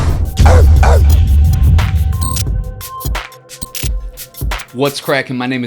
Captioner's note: hip hop music; barking